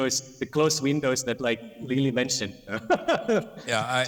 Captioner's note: laughs